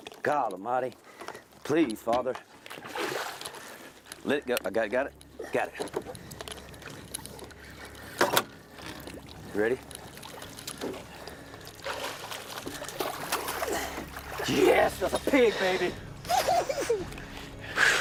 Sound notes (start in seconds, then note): 12.1 water splashing